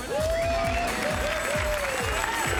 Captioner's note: cheering